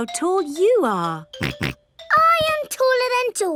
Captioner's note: snorts